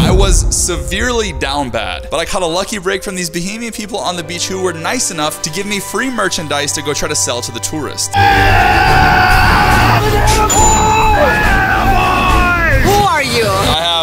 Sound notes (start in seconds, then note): 8.1 excited screaming